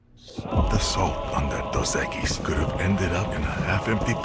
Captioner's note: laugh